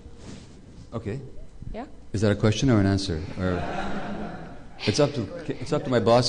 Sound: laughter

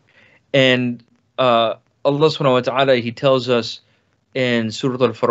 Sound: speaks in foreign language

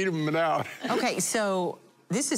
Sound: laughing

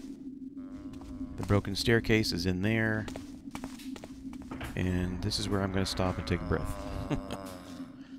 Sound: chuckles

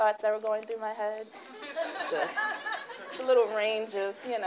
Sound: laughing

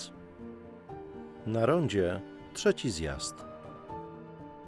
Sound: in Polish

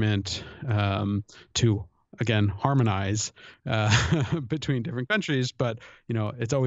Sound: chuckle

